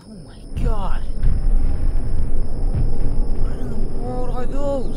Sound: sirens and Rumbling

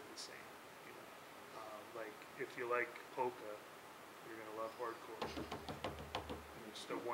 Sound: drumming on the table

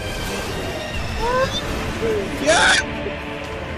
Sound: screams in excitement

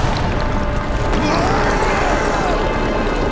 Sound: screaming

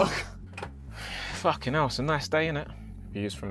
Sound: exhales heavily

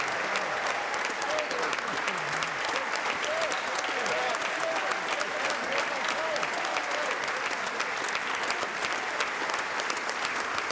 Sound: applause

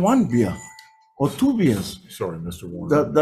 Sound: bell dings

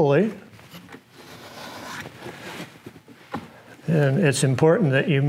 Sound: light scraping

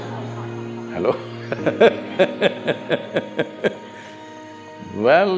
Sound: laughs

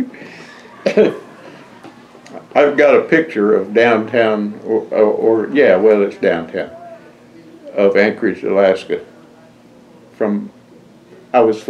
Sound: laughter

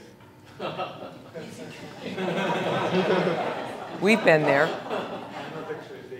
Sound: laugh

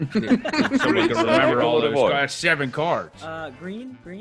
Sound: laugh

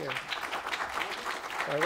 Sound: applause

